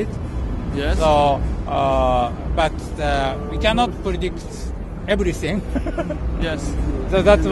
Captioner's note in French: rire